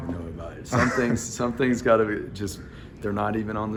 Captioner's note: laugh